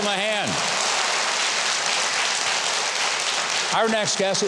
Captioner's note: audience cheering; audience applauding